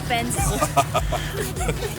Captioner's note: evil laughter